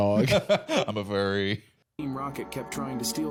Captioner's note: laughs